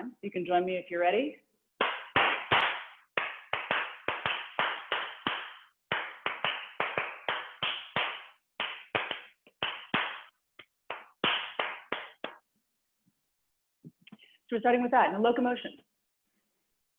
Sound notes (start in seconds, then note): 1.5 applause